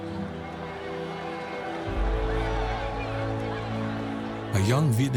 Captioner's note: cheering